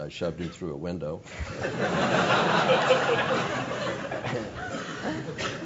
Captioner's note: laugh